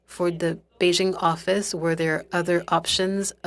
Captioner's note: speaking french